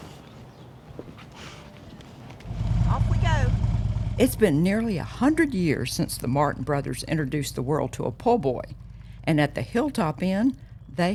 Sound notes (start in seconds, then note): 0.1 birds chirping; 3.4 motor rumbling